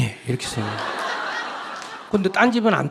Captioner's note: audience Laugh